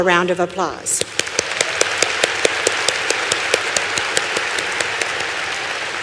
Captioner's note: applause